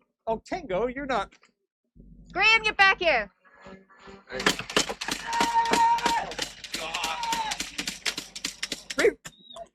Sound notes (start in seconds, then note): 5.8 yelling